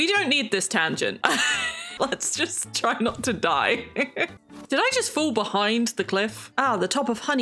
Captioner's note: laughs